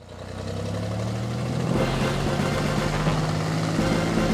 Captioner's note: plane engine roaring